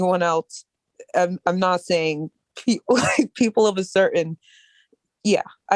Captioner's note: laughter